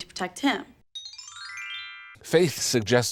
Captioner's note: Lesbian Subtext Bell